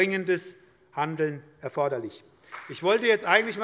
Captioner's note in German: Beifall bei der SPD